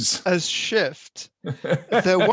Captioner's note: laughs